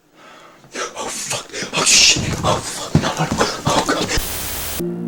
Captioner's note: gasp